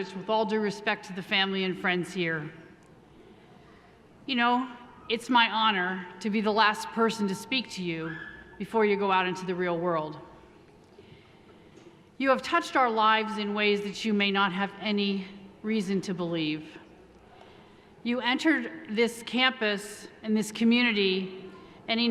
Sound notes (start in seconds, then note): none